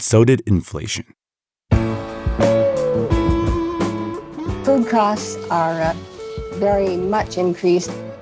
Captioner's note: soundbite of archived recording